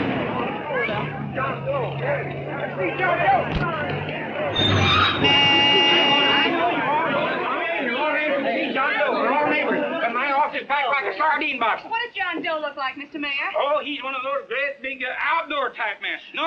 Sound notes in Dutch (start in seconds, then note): 4.4 claxon toeteren